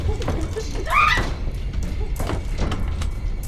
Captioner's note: screaming; suspenseful music